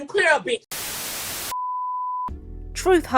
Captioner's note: static